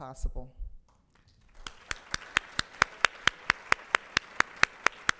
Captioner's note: audience applauds